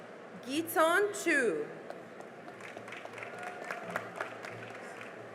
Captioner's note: cheering and applause